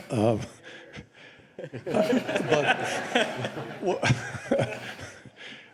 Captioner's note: laughter